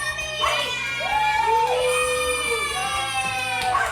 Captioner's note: family cheering